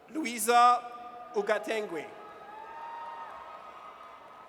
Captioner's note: audience cheers